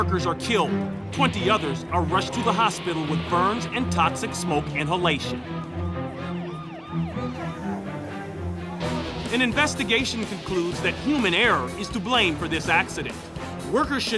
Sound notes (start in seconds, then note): 6.2 siren wails